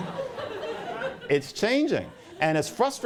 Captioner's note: laughter